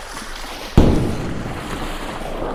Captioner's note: gunshot